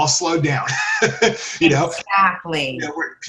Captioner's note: laughs